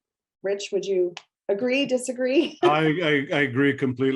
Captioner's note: laughing